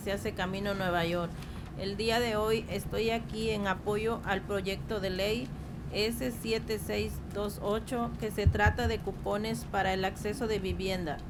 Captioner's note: speaking in spanish